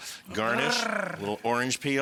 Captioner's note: Rachael rolls tongue